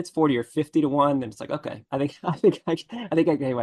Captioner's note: laughs